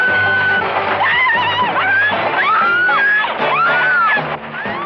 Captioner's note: screaming